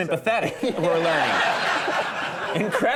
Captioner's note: audience laughing